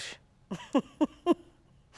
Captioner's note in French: Rire